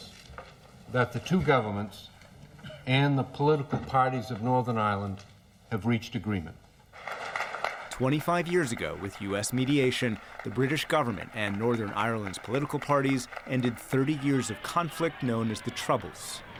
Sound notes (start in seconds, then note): 7.8 applause